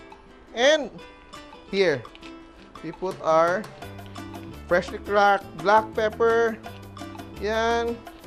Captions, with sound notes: And -- here. [Crack] We put our -- [Crack] freshly cracked black pepper. There.